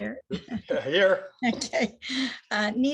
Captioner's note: laughs